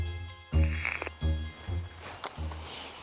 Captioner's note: music fades; electronic static